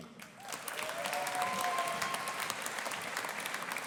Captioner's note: audience applauding